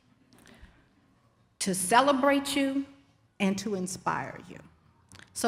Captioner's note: none